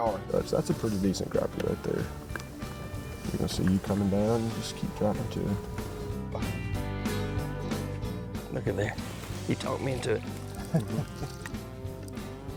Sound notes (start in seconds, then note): 2.9 upbeat music; 7.1 chuckling